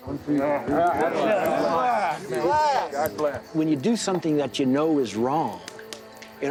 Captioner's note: men toasting glass